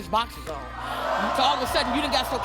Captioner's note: audience cheering